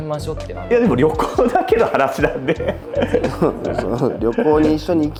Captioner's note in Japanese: 笑い